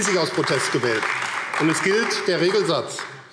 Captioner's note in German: Beifall AfD